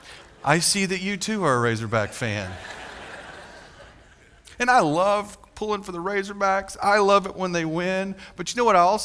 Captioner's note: laughter